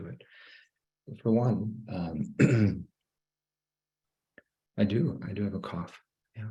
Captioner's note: clears throat